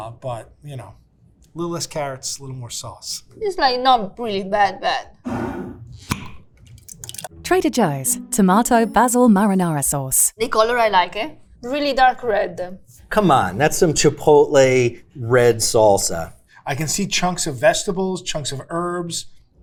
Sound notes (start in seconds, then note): 5.2 jar scraping; 6.6 sauce sloshing; 6.8 jar cap clacking